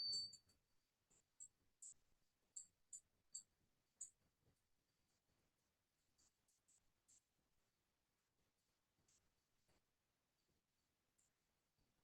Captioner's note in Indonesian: awkward silence